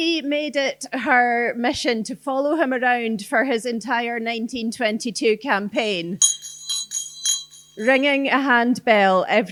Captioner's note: bell rings